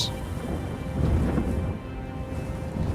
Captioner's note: thunder